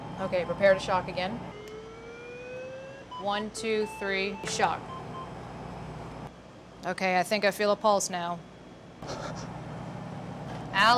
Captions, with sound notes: Okay, prepare to shock again. (machine beeping) One, two, three, shock. Okay, I think I feel a pulse now.